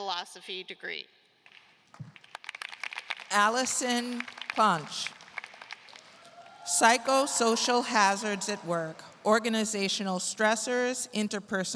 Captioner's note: applause